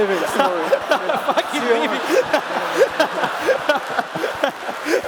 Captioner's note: laughter